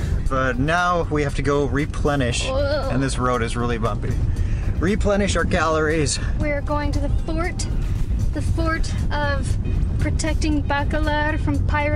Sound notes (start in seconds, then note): none